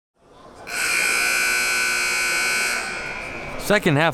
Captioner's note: buzzer blaring